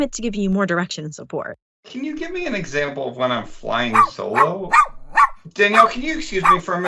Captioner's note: dog barking in the background